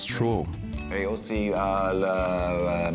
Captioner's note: speaks french